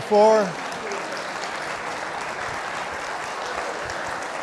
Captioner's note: audience clapping